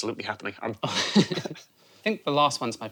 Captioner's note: both laugh